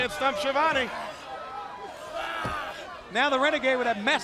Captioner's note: crowd chatter